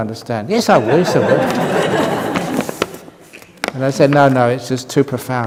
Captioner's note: laughter